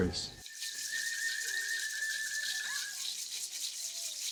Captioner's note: whistles blowing